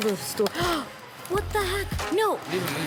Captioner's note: gasps